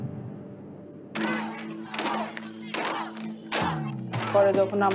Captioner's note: police chanting